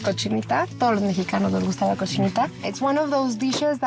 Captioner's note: speaks spanish